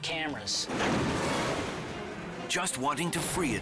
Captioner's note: cage bangs